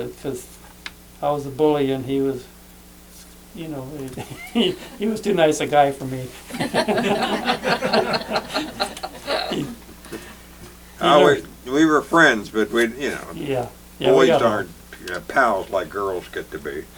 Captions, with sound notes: 'Cause I was a bully, and he was, you know. (laughs) He was too nice a guy for me. (laughter) - We were friends, but, you know. - Yeah. - Boys aren't pals, like girls get to be.